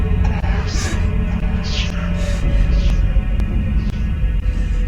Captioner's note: speaking distorted